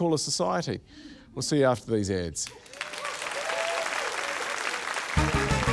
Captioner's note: cheering, applause; upbeat fanfare